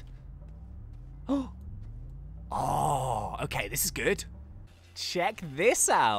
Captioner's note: gasps